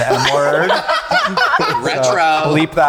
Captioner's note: group laughing